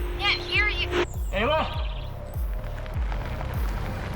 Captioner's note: static; crunching gravel; trucks approaching